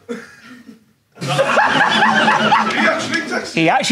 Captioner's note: audience laughing